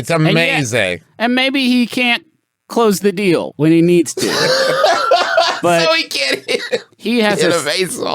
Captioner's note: laughs